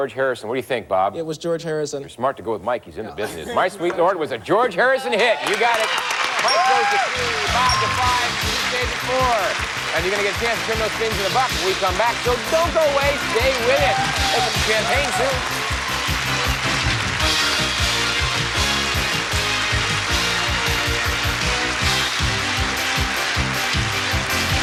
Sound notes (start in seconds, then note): 6.9 aH@udiencH@e laugH@hing; 15.0 aH@udiencH@e applH@auding